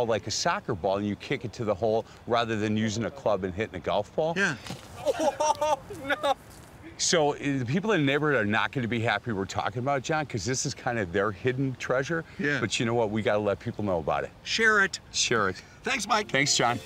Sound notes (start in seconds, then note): 5.0 laughter